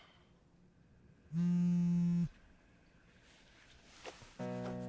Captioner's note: phone vibrating; somber music